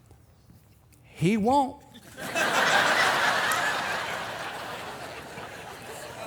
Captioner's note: audience laughing